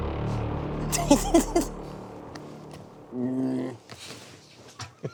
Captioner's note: people laughing